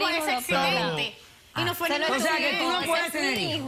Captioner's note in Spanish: Hablan al unísono